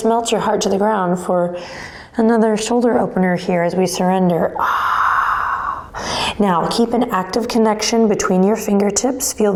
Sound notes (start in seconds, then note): 4.6 sighs